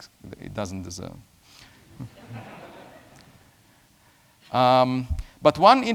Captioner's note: laughter